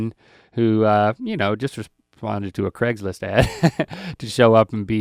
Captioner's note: laughs